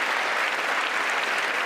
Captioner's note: applause